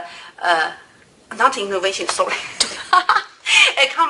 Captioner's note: laughs